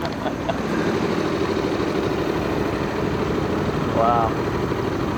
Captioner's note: motor chugging